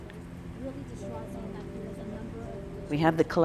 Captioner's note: people chattering